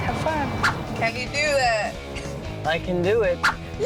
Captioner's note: snickers